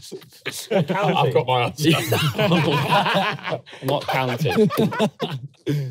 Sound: laughing

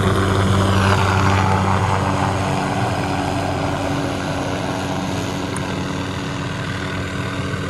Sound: helicopter continues

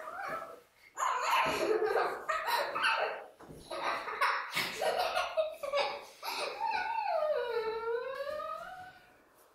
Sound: baby laughs and screams

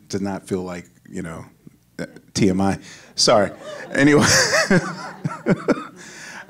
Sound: laughing

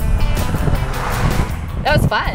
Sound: zooming

